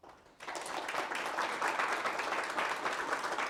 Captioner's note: audience applauds